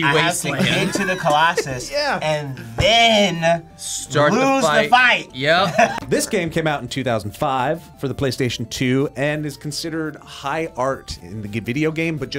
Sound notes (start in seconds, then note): 5.6 laughs